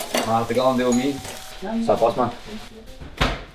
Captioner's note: doorbell